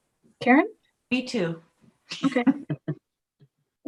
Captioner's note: laughs